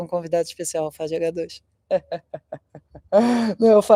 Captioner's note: laughter